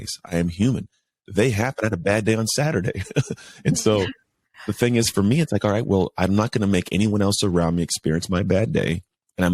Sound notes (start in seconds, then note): 1.4 laughs